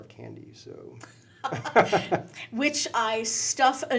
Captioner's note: laughing